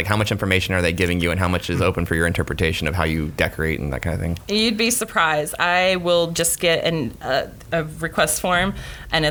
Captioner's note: none